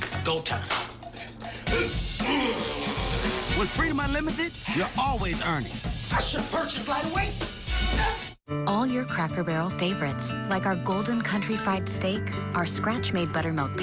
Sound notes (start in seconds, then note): 1.6 groaning